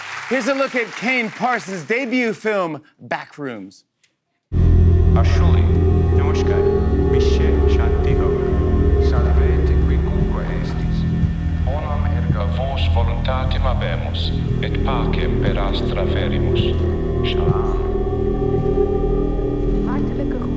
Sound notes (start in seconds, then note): 4.7 lights buzzing; 6.6 recorded voice speaking Latin; 17.3 recorded voice speaking Arabic